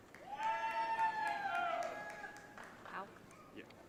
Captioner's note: audience cheering